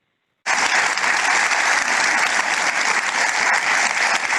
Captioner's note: audience clapping